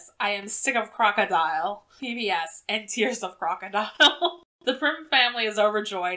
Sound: laughs

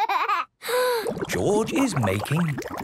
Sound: inhales deeply, water bubbling

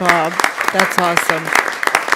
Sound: applause

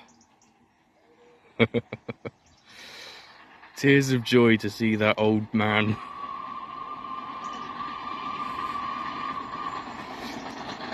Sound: chuckling; Flying Scotsman's streak whistle blowing

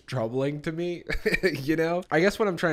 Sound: chuckles

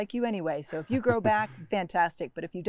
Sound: chuckles

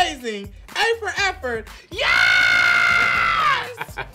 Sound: screams

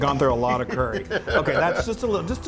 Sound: laugh

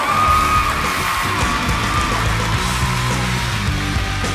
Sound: crowd cheers

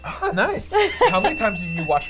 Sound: bell dings

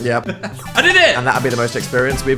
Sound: laughing

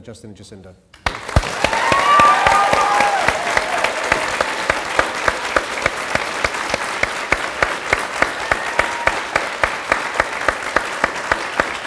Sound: cheering & Applause

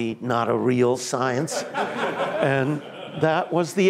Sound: laughter

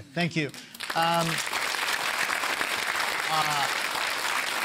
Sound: applause

